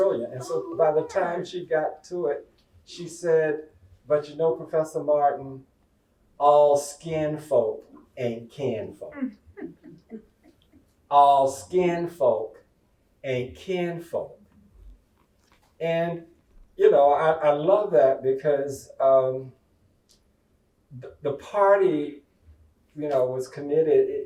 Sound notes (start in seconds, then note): 9.5 laughter